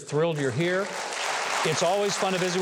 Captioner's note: audience applause